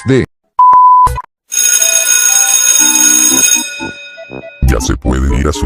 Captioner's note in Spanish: Suena la campana del recreo